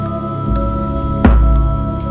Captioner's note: thud